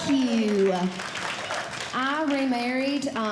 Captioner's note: audience Clapping